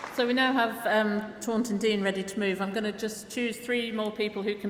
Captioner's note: applause